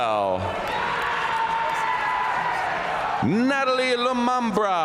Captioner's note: audience cheering and applauding